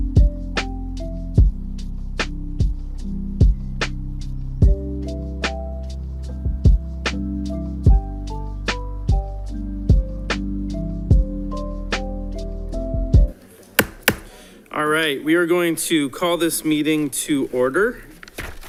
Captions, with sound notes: (gavel bangs) All right, we are going to call this meeting to order.